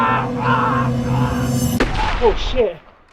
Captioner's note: Andrew grunting; chilling music rising; Andrew screams